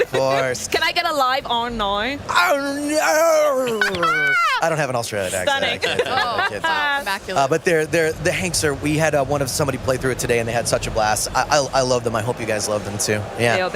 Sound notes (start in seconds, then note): 2.1 bad Australian accent; 5.4 laughter